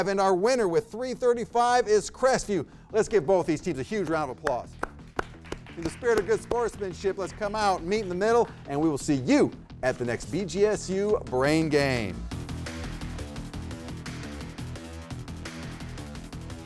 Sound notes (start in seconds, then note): 4.4 people clap; 12.2 upbeat music